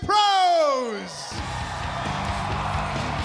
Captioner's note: crowd cheering